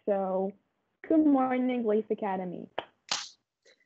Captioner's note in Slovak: tlesk